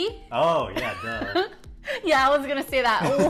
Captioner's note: laughs